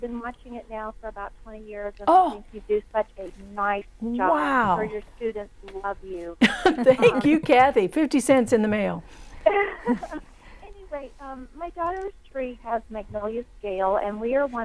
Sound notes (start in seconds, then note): 9.4 laughing